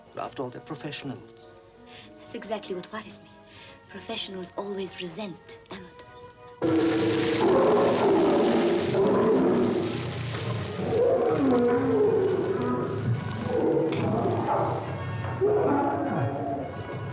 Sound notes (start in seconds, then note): 7.3 lions snarling